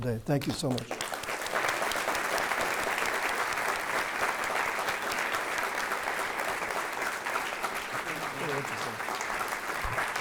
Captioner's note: applause